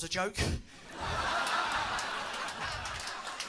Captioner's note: laughter